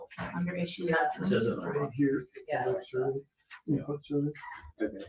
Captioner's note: overlapping chatter